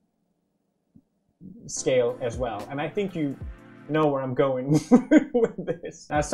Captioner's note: akward silence glare; laughing again